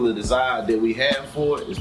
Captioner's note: birds Chirping